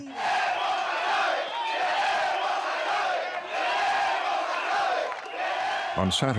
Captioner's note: chanting